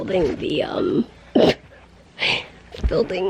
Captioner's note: snorting